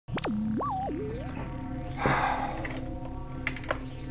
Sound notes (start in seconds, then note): 0.1 electronic whining